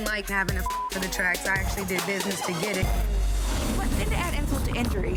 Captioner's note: beep